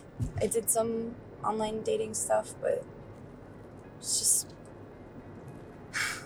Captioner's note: sighs